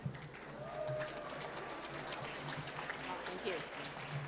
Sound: applause

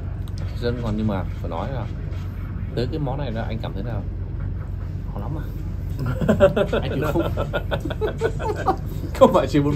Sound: laughters

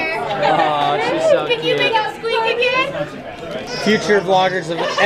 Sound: loud crowd

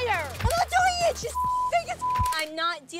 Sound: beep

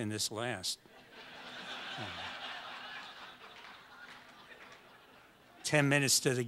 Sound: audience laughs

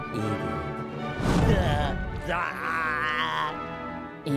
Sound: groaning

